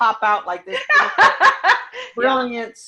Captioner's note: laughing